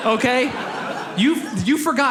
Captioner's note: audience laughs